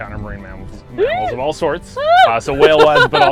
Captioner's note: excited laugh